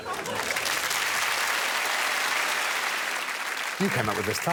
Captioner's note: applause